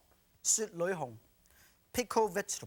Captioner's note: speaking Chinese